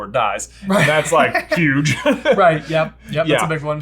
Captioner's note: laughs